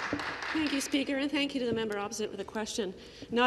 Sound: applause

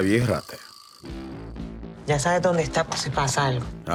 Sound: in Spanish; in English

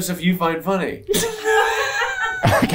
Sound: laughing

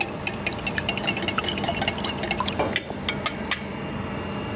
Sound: bowl clinks

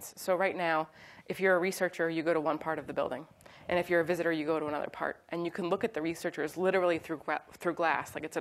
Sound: none

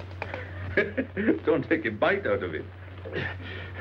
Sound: laughing

